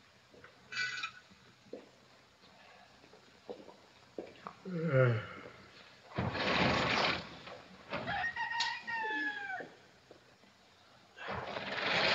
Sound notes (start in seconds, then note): 4.6 yawns; 8.0 cock crows